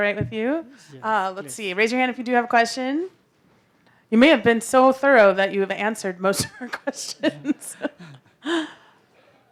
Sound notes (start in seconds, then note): 6.6 laughs